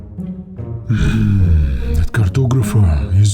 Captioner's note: growls